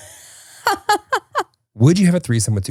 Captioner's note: laughing